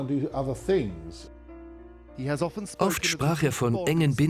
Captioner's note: voiceover